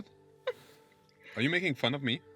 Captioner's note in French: Rire discret